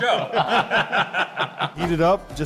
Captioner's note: laughing